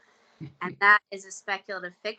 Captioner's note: chuckling